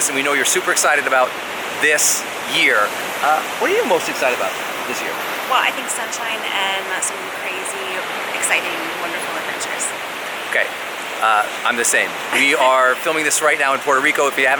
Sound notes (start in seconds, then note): 11.8 laughs